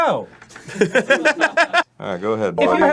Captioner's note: laughing